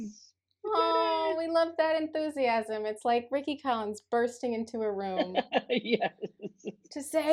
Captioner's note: laughter